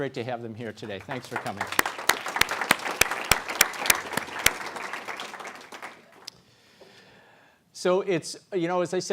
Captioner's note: applause